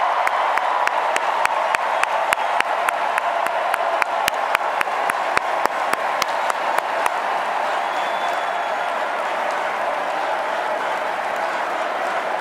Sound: cheers, applause

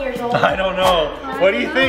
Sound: whooshing

